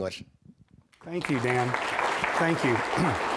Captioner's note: applause